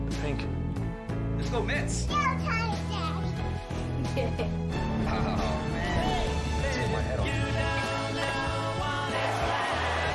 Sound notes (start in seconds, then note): 4.0 giggling